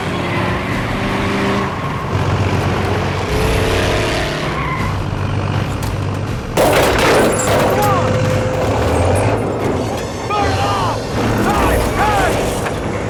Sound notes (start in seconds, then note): 6.9 Van Shouting